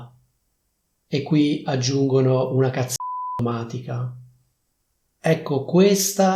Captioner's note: beep